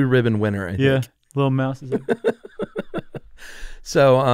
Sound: laughing

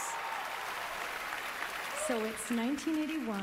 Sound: cheering, applause

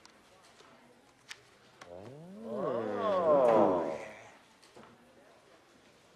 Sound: all oohing

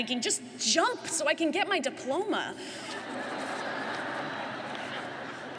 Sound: laughter

